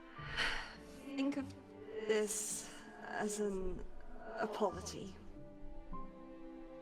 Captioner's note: sigh